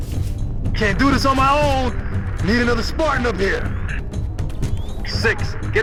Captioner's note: radio